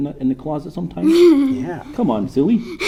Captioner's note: laughs